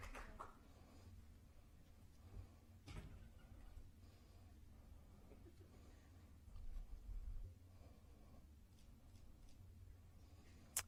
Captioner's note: applause